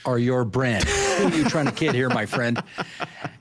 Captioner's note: laughing